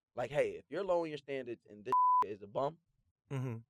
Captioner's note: beeps